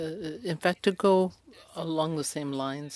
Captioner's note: speaking French